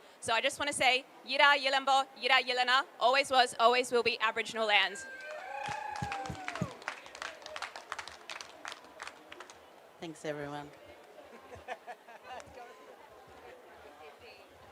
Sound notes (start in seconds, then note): 1.5 speaks indigenous language; 5.1 applause; 10.9 background chatter